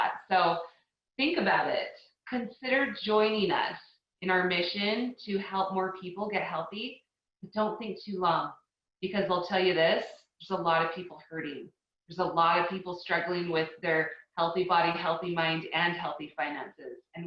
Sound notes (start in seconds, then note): none